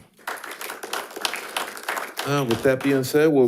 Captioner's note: audience applauding